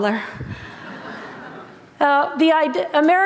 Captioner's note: laughter